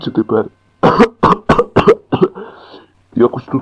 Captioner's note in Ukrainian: кашляє